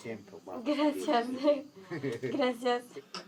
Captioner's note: laughing